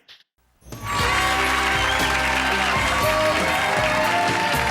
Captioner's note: cheering; lively music